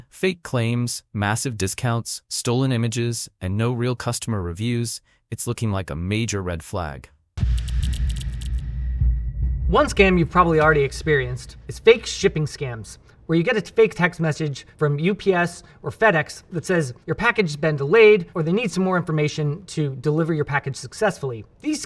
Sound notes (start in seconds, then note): 7.4 intense music; 7.4 graphics clacking